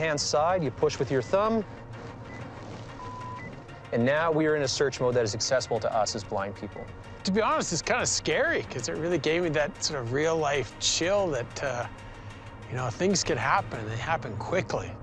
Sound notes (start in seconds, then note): 2.9 beeps